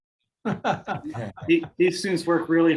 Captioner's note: participants laugh